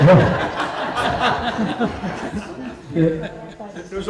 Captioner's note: laughter